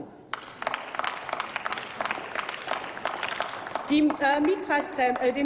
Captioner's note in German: Applaus